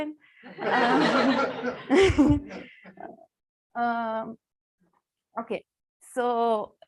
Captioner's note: laughter